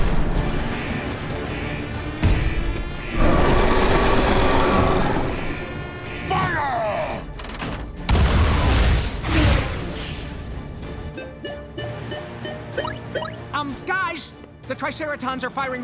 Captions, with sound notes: [beeping] [roaring] Fire! [beeping] Um, guys? The Triceratons are firing rockets